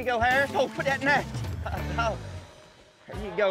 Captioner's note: laughing